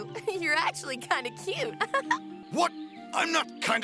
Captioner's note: girlish laugh